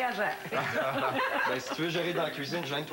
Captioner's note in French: Rires